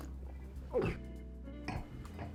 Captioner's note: Charles slurping; jazz music